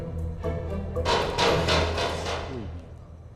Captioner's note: sound of metal